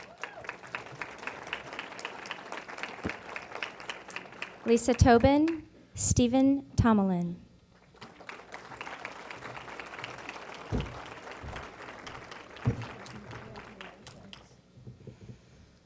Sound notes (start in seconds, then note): 0.0 applause; 7.8 applause